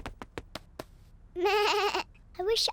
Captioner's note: bleats